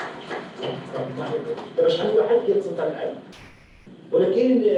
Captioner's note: non-english speech